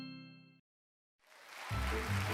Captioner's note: cheers and applause